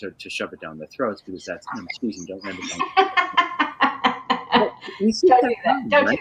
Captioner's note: laughing